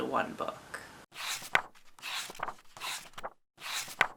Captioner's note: page turning